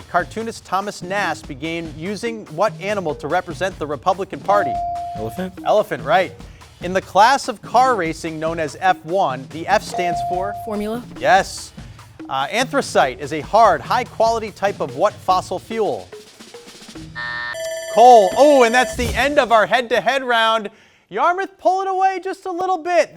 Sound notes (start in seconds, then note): 4.6 buzzer chimes; 9.9 buzzer chimes; 17.2 buzzer blares; 17.2 alarm blares